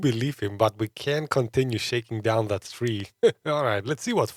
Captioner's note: laughs